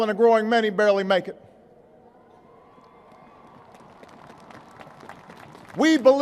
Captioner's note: applause